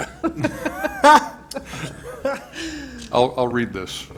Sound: laughter

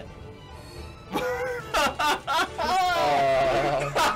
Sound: laughs

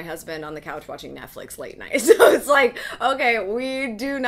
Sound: laughs

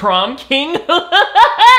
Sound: laughs

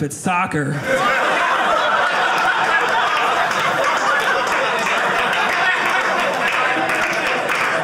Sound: audience laughing

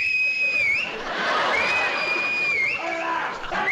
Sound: loud whistle

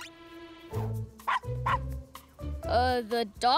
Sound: barking

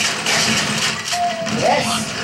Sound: phone's text message notification sound

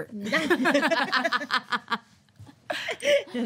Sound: group laughing

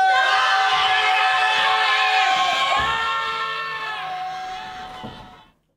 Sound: screams

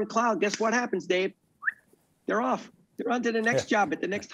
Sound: whistles

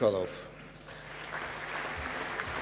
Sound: applause

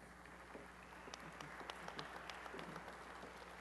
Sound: applause

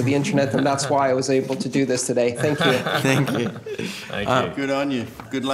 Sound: laughter

